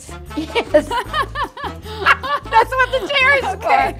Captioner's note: both laughing